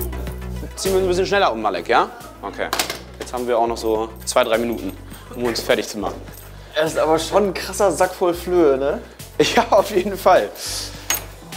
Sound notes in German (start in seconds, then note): 9.3 lacht